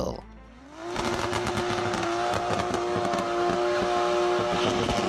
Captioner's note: car engine revving